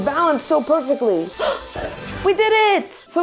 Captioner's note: gasps